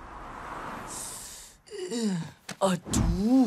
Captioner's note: sucks in sharp breath, groans